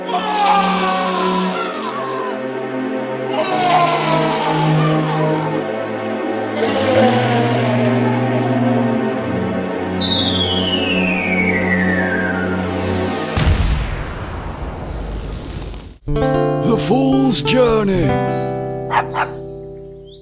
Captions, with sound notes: AARRGGHH!! AARRGGHH! AARRGGHH! [ LOUD BANG ] The Fool’s Journey [ DOG BARKS ]